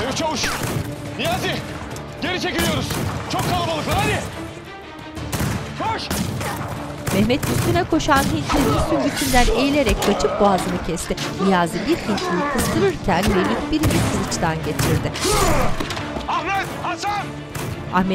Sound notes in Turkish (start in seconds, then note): 6.0 Silah sesleri; 8.8 Darp sesleri